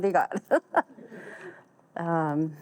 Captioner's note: all laugh